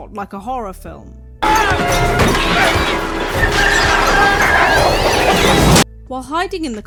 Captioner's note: Shepley screaming, chickens crowing, thumping, cat noises